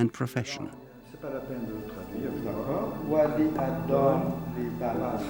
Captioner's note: scholars speaking French